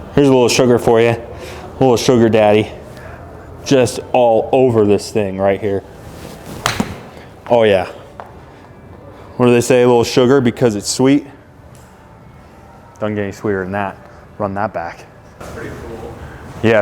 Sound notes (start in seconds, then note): 6.5 ball smacking